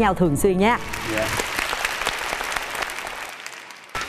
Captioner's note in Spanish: aplauso